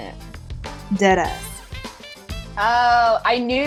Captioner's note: voiceover